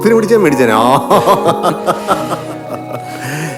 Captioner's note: laughing